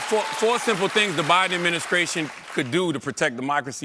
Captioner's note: applause